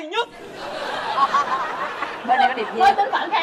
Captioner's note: laughing